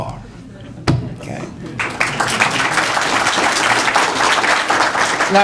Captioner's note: applause